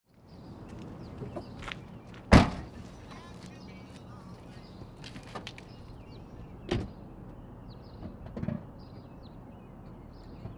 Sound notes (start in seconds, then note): 2.3 car boot slams